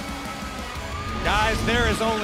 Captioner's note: cheers & applause